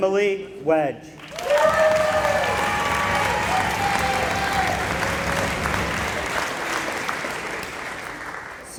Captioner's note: applause